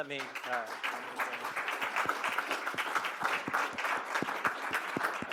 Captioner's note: audience applaud